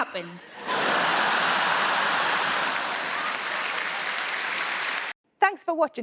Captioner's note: audience laughing; audience applauding